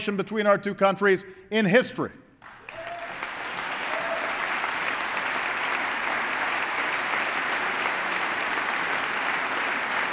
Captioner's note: applause